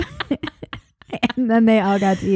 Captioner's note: both laughing